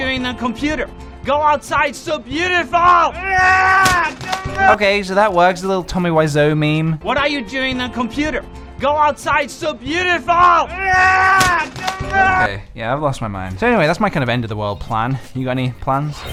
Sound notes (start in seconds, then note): 2.9 yells; 10.2 yelling